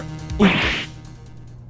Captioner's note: gulp!